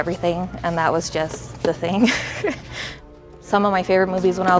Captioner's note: laughs